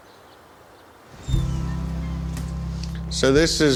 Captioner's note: door creaks